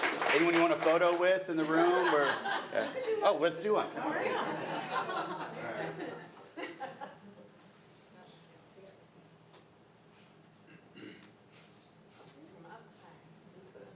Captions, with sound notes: Anyone you want a photo with in the room or? - You can do. - Oh, let's do one. (audience laughing)